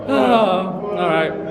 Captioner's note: sighs